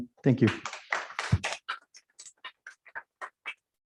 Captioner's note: applause